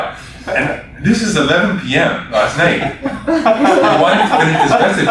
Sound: laughter

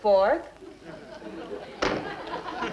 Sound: chisel thuds; audience laughs

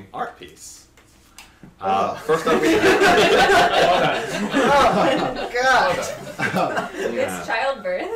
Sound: assorted groans of disgust

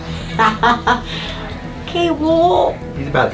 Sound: laughing

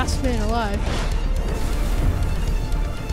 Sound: wind rushes

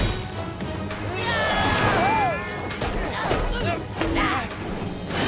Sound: grunting

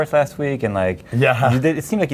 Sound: laughs

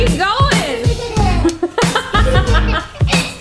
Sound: laughing

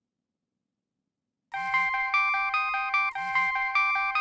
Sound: phone rings

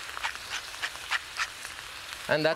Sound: grinding pepper

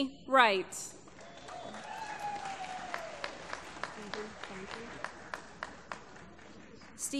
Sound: applause

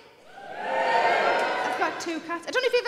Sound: audience cheers

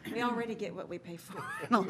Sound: laughter

